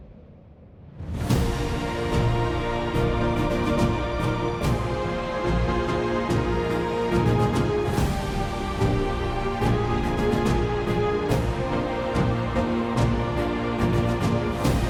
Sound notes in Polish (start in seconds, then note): none